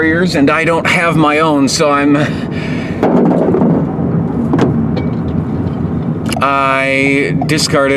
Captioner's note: thud